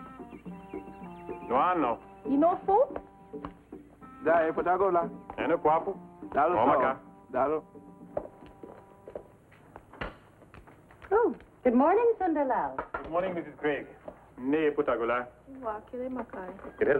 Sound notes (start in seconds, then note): 0.0 ethnic music; 1.4 speaking foreign language; 14.3 speaking foreign language